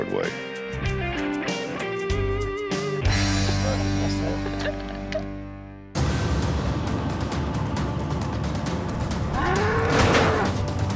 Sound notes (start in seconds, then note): 3.3 laughter; 9.2 bull bellows